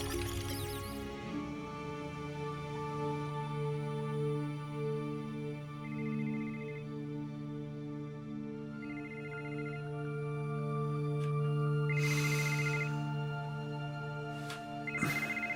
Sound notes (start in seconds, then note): 6.0 cell phone ringing